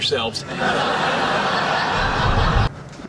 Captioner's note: laughing